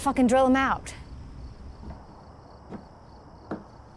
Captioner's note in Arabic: خطوات صعود الدرج